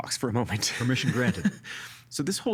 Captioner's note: laughing